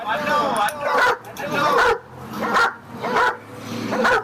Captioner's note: dog barks